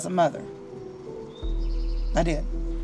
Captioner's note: birds chirping; sad music